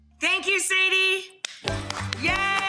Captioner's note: applauding